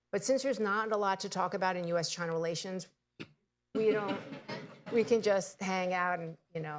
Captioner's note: laughter